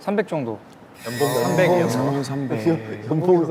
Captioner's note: murmurs erupt over the low salary